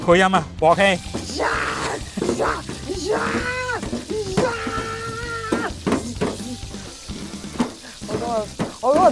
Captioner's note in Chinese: 扮鑊氣聲